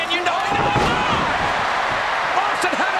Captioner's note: wrestlers thudding